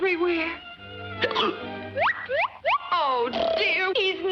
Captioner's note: Rudolph hiccups